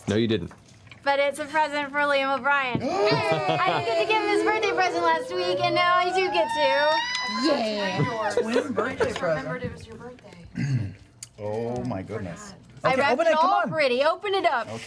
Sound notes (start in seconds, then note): 2.8 cheering; 7.3 shrieks